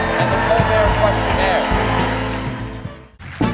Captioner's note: cheers and applause